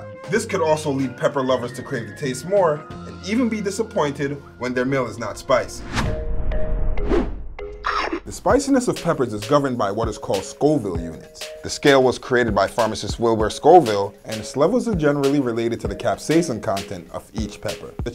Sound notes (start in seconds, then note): 7.0 woosh noise